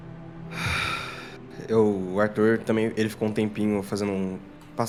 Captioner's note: sighs